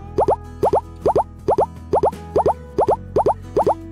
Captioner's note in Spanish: Frecuencia de sonidos cada vez más rápida